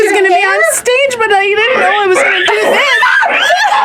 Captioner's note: pig squealing; screaming